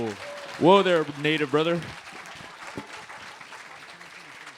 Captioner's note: applause; applause